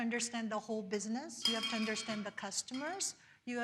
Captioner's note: metal clanks